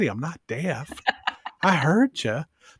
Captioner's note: laughs